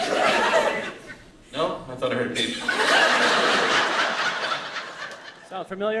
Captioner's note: laughter